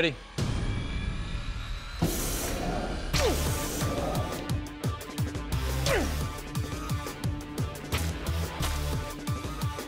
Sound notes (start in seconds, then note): 3.1 energetic music; 5.8 grunting